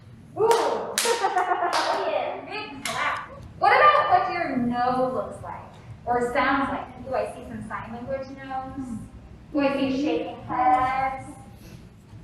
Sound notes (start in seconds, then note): 0.4 clap